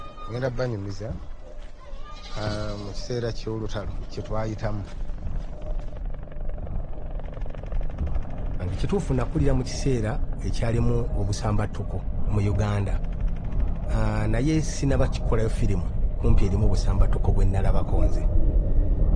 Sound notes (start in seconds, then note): 5.8 helicopter sound overhead